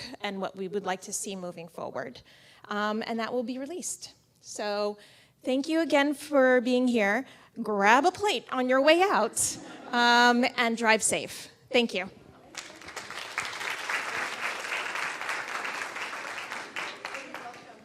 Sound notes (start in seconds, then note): 12.4 audience claps